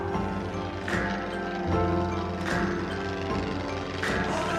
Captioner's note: airplane rumbles; upbeat music